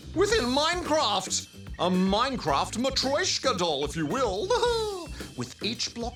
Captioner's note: laughs